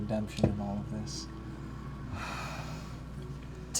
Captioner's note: sighs